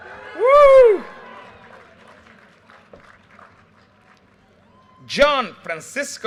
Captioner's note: audience cheers and applause